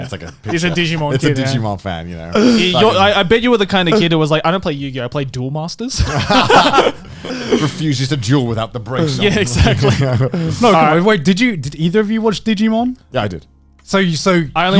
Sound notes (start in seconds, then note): 6.0 all laughs